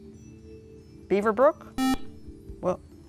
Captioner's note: buzzer